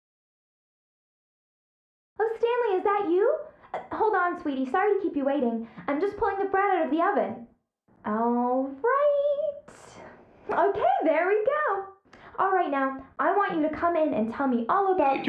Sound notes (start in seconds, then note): 2.2 female voice